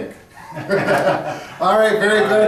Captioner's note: laughing together